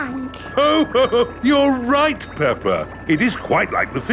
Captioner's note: laughs